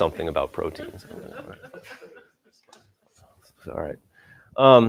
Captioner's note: laughter